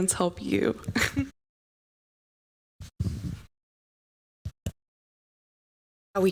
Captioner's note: audio out